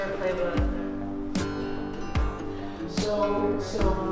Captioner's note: mellow music; group chatting